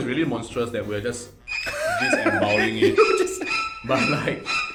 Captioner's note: laughs